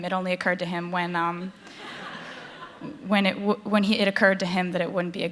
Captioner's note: laughter